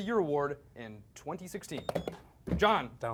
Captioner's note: beep